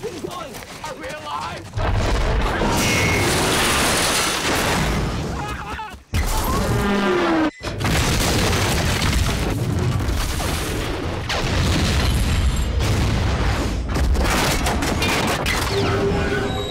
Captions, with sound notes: - Keep going. - Are we alive? (train crashing) (Charles screaming) (house exploding)